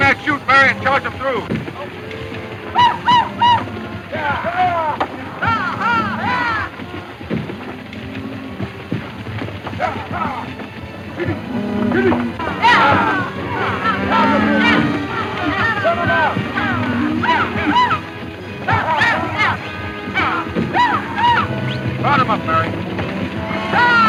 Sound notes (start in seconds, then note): 4.6 cattle mooing; 4.6 cowboys shouting